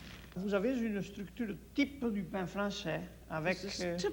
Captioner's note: speaks French